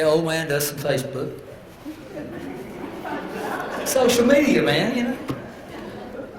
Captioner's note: laugh